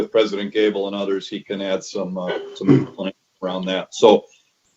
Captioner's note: mic cuts out